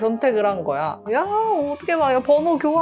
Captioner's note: buzzing